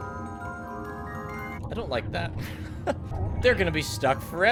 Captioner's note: laughs